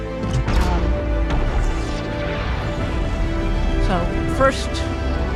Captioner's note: spaceship whooshing